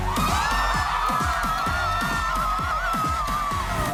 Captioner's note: crowd cheering